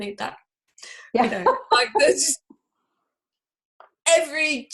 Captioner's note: laughs